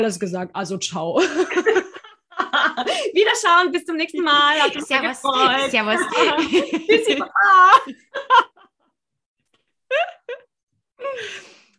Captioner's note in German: lachen; lachen